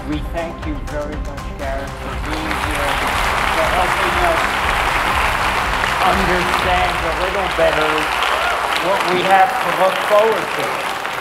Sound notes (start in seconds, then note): 2.7 audience applauding; 10.9 soft music